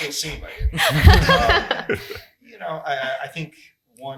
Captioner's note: laughs